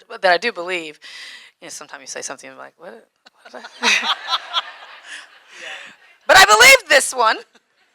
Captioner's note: audience laughing